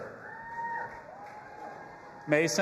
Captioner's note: audience applauding and cheering